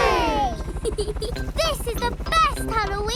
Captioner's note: peppa giggles